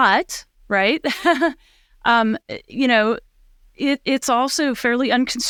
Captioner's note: giggles